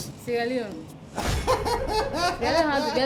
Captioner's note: laughs